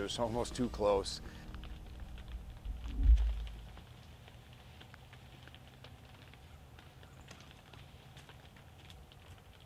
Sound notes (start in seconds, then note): 1.7 crackling